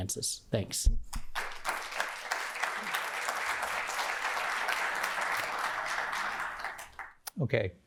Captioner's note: applause